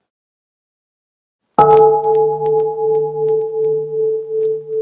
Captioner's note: bell